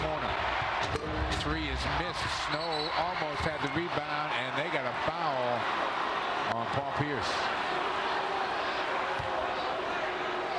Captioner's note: crowd chanting "defense"